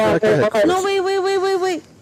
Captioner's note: radio Chatter